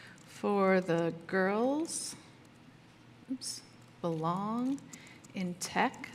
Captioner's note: typing